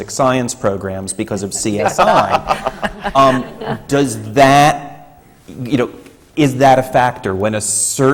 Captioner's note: laughter